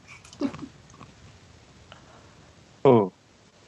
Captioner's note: chuckles